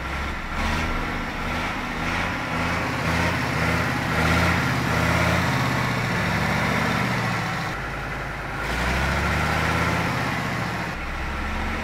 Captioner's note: revving up the engine